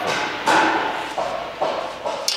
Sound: hammering, background

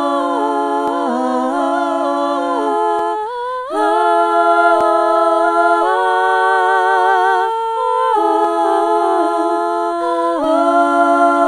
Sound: humming gives way to sobs

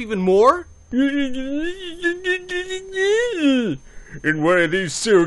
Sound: babbling

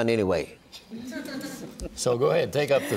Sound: audience laughing

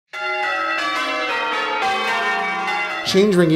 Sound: bells ringing

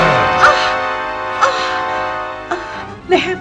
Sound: grunts; groans

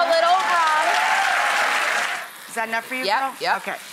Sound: audience cheers

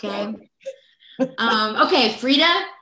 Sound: laughs

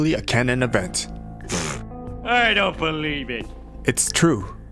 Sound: scoff

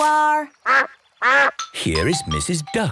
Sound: quacks

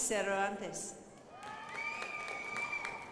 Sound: crowd applauding

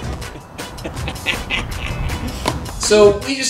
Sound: laughs

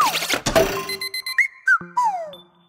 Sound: chirping

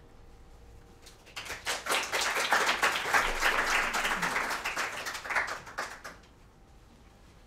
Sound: applause

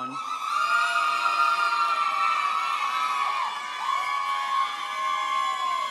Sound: audience members holler and applaud

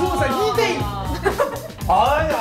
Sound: ahahahaha

